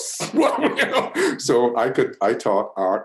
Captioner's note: laughs